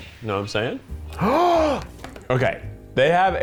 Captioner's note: gasps